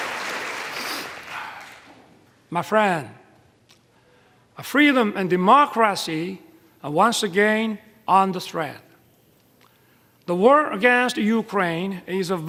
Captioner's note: applause